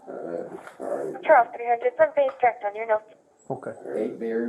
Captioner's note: radio chatter